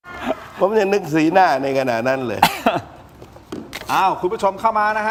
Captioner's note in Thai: เสียงหัวเราะ